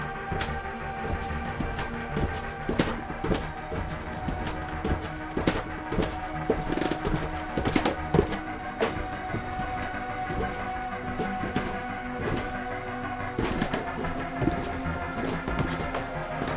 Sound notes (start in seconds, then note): 1.5 creaking footsteps on stairs